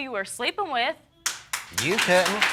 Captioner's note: audience applauding